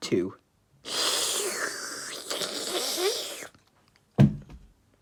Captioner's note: Luigi Drinking